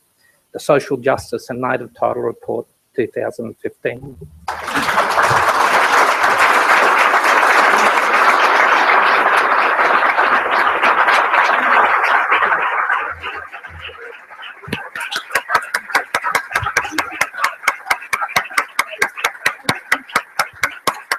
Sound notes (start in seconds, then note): 4.9 applause